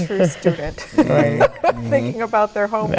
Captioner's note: laughing